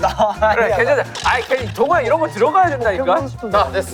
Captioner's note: arguing